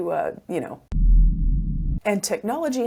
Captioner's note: ominous rumbling